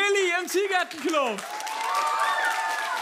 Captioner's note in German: Applaus